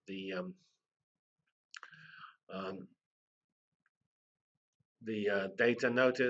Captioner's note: pause